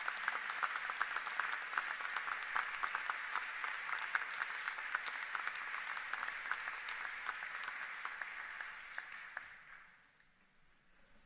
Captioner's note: applause